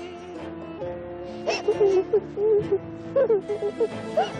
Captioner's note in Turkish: Ağlama sesleri gelir